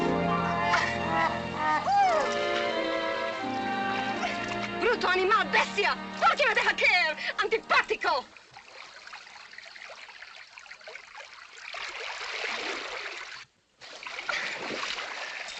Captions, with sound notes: [ JOKE MUSIC ] [ IN SPANISH ] Brute, animal, beast, why did you drop me? Unpleasant!